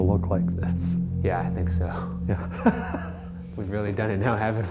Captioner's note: laughing